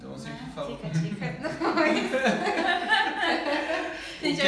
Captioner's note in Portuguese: risos